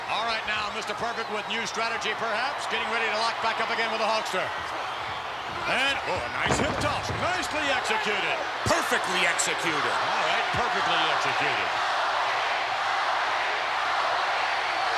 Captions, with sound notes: All right, now, Mr. Perfect with new strategy, perhaps? Getting ready to lock back up again with the Hulkster. And, oh, a nice hip toss. Nicely executed. Perfectly executed. All right, perfectly executed. (crowd cheering)